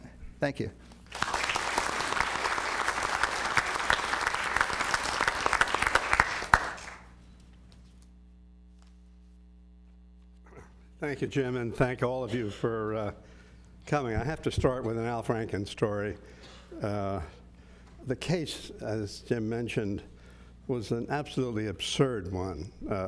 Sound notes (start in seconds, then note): 3.9 applause; 7.1 cough